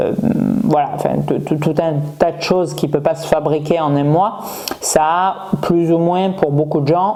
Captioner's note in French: grognement